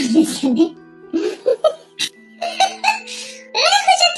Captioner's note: laughs